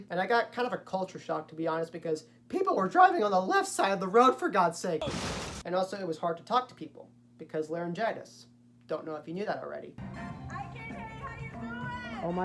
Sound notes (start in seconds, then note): 5.0 crashing